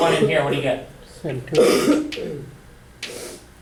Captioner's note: voiceover